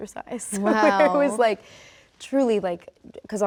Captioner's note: Rachel laughs